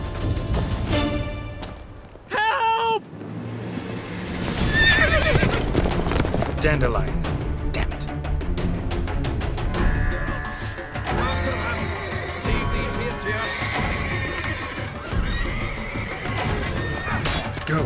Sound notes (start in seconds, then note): 4.6 horse neighs; 9.6 horses neighing; 14.3 horses neighing, commotion